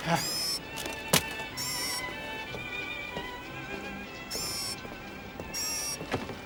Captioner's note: mechanical whirring